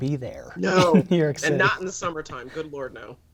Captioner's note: laughter